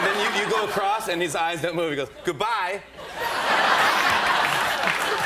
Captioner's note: laughter